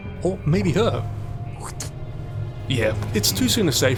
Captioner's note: spit